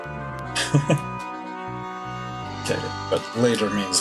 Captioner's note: chuckles